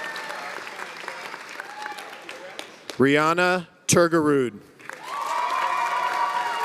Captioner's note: cheers and applause